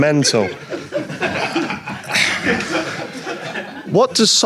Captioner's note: audience laughs